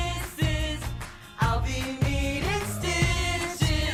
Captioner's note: laughs